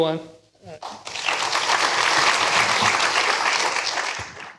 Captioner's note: applause